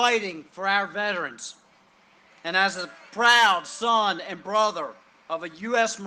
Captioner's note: cheering and applause